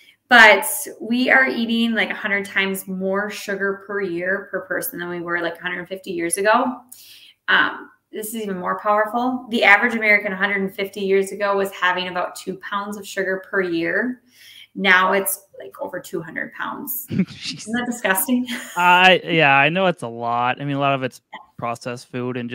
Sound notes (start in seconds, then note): 17.1 laughing